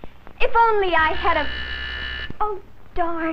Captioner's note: doorbell rings